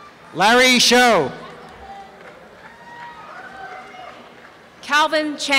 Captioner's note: applause and cheering